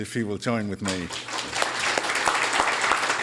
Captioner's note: applause